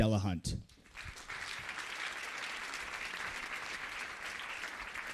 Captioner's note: audience applauds